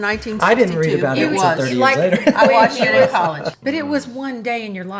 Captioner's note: laughs